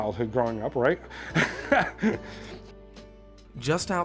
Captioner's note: laughing